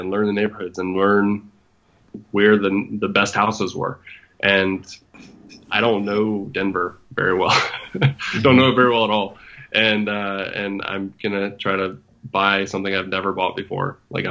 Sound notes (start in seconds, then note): 7.1 laughs